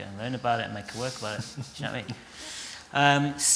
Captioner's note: laughter